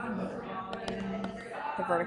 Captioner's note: stylus taps